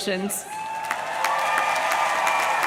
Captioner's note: audience cheering; audience clapping